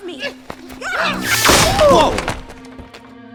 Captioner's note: magical slicing